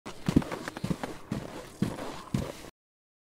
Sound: footsteps

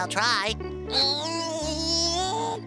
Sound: groaning

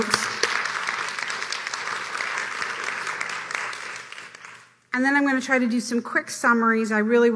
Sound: applause

